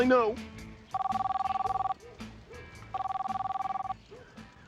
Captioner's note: phone ringing